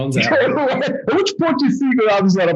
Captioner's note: laughing